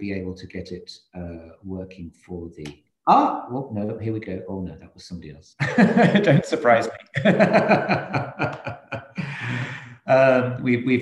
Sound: laughing

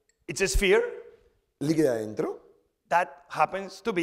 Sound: speaking spanish

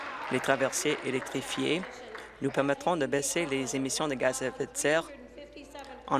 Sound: applause

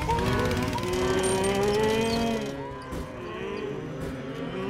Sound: all moo-ing

